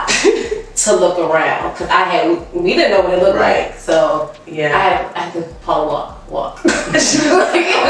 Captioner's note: laughs